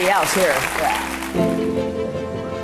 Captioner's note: applause